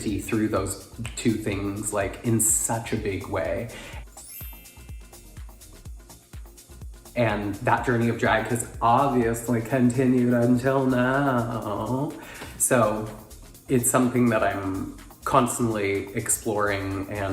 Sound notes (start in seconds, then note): 4.0 chimes ringing; 4.5 upbeat instrumental music